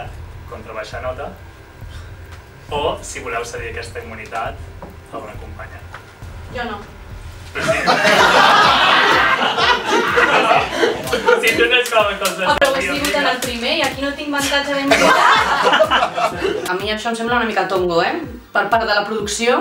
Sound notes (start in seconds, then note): 7.5 laughs; 14.4 laughs